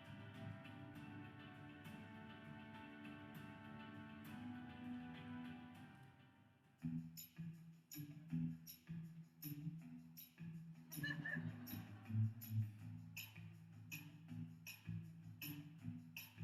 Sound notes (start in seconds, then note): 7.8 funky music; 10.7 funky music; 11.0 audience laughs